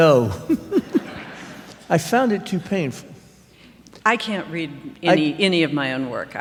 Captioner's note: laughter